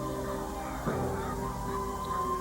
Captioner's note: police sirens